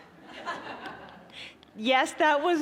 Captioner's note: audience laughing